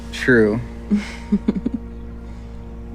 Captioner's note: laughter